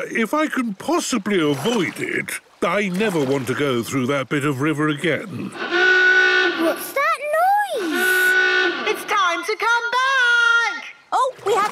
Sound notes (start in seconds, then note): 7.7 honking; 7.8 horn honking